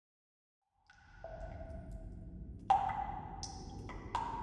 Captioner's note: water dripping